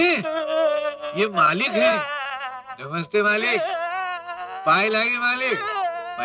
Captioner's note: crying